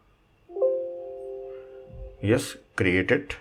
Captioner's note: computer chimes ring